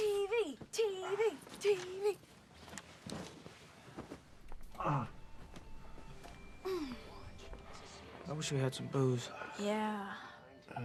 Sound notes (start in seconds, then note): 4.6 moaning